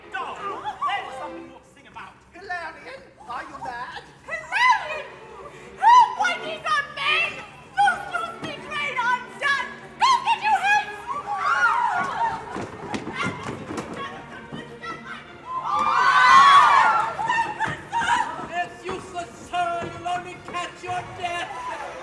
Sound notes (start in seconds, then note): 11.0 girls shriek